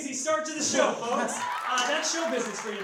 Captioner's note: audience applause